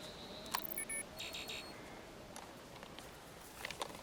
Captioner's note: beeping